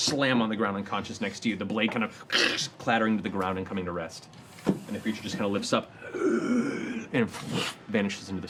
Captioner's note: wheezing